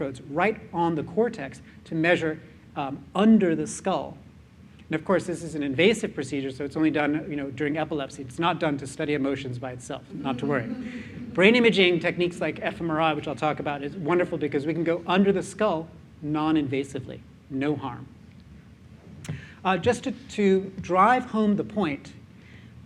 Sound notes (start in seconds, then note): 10.3 chuckling